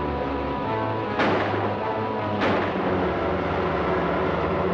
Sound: gun firing

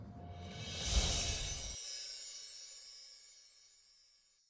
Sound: bells chime

